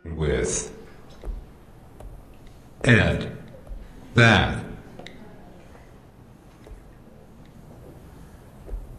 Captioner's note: computer voice